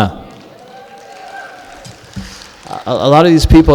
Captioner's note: clapping